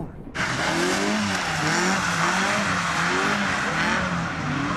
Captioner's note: engine humming